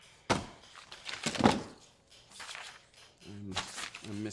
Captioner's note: papers rustling